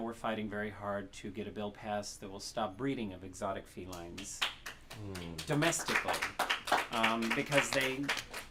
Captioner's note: applause